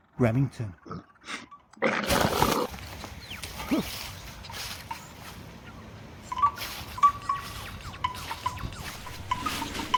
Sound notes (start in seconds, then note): 1.8 growl snarl; 6.9 windchimes in trees